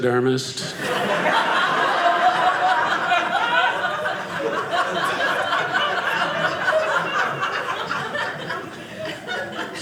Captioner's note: audience laughing